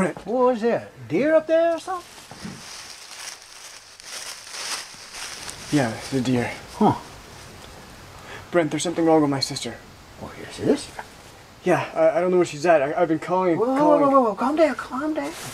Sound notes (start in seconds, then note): 1.8 leaves crunch, footsteps